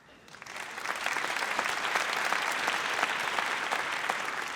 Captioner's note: audience applauds